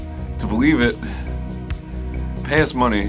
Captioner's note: tired sigh